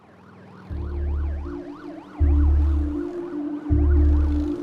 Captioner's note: siren blaring